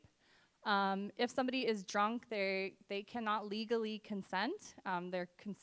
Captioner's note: none